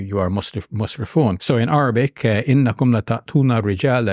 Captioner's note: speaks in Arabic